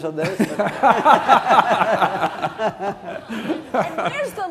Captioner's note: laughter